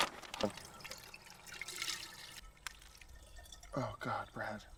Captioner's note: watermelon splashing into jug